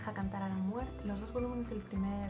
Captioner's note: spanish only